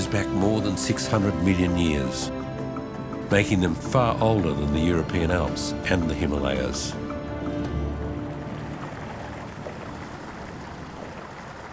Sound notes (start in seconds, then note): 8.1 water gurgles